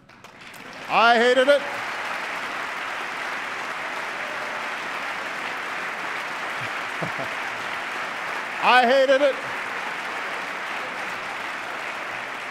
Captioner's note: applause